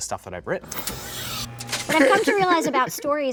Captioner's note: electrical buzz